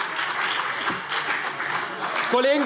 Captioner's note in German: Beifall CDU